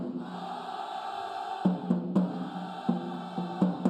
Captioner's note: band cheering